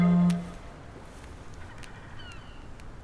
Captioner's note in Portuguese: toque de celular